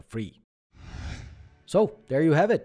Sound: screen whooshes

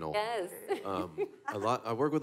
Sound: laughs

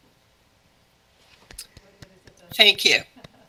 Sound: gentle claps

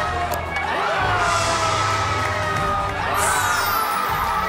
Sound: the crowd cheers for him

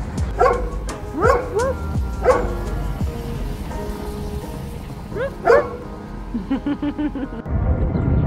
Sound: barking; distant music

